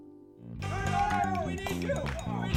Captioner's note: shouting